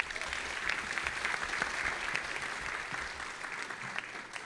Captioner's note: audience applauding